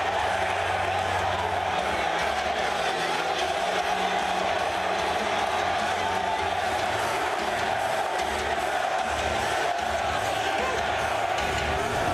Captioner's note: cheers and applause